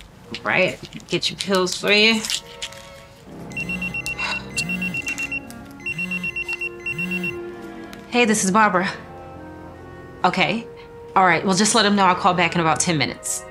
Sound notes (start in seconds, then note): 3.4 phone ringing